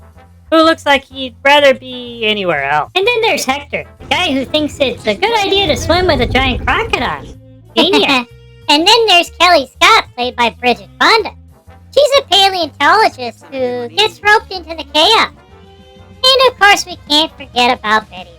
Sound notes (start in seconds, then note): 3.3 mockingly; 7.8 laughing